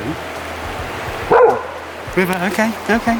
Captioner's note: River barking